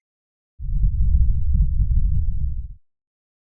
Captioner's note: loud rumble